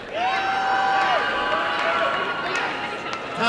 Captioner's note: applause and cheering